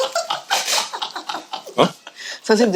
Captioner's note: choking